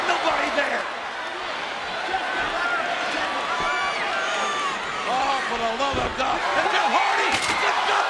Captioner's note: applause